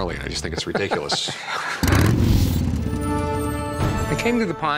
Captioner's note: laugh